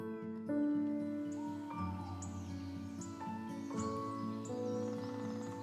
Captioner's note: birds chirping